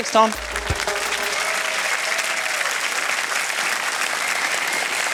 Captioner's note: cheering, applause